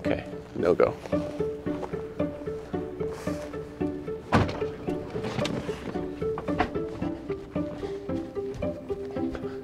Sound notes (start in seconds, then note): 1.7 suspenseful music; 4.2 RV door slams; 6.3 suspenseful music